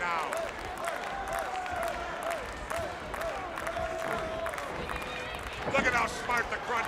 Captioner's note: crowd cheering